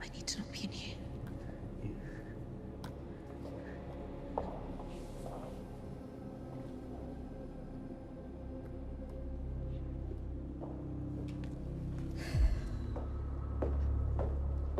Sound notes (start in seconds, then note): 3.6 ominous music; 12.3 Emma sighs